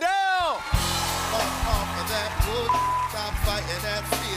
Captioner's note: cheers and applause